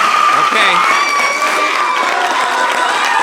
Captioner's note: applause